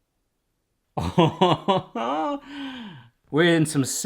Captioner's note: laughs